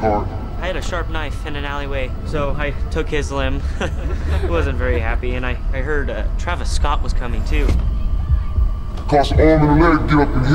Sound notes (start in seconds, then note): 2.0 laughs